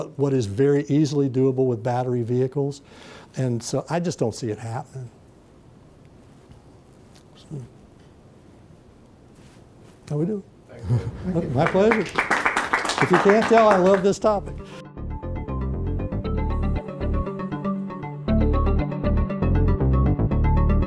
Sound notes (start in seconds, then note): 11.4 applause; 15.7 closing Music